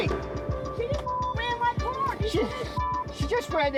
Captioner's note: beep